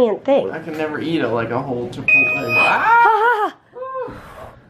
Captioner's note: beep!